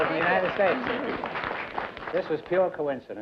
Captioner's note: applause